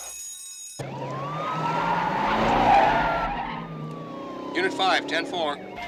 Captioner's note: sirens sounding